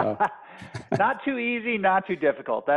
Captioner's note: laughter